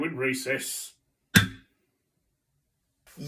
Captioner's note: gavel